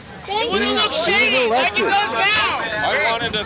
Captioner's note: voiceover